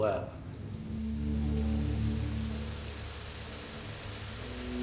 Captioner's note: wind hissing